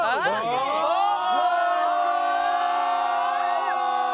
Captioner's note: everyone cheers